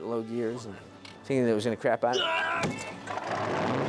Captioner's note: grunting; engine starting